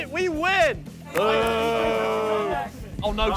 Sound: contestants booing

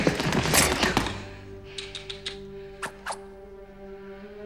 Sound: clicks tongue

